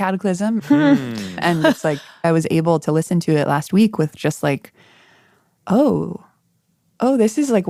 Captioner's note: laughs